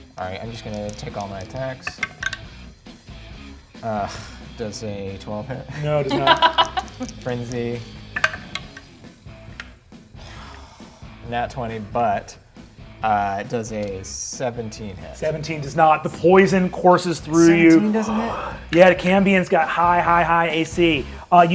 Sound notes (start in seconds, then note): 1.8 die rolls; 5.8 laughs; 8.1 die rolls